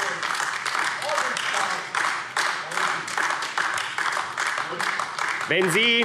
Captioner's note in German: Beifall AfD